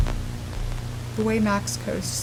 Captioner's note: static continues